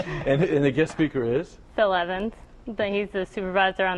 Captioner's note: laughter